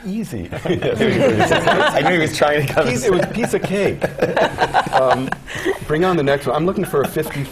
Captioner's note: laugh